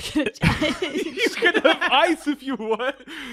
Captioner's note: laughing